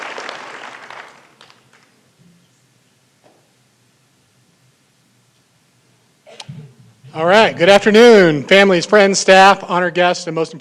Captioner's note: applause